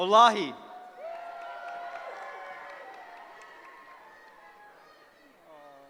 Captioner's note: cheering